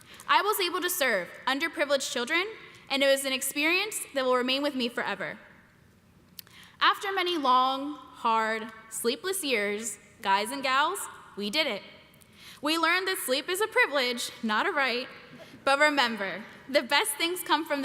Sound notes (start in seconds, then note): none